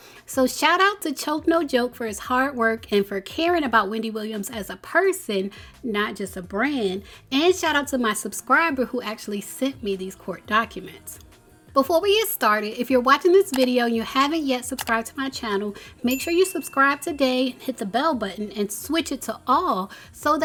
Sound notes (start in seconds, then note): 14.6 mouse clicking; 16.0 bell dinging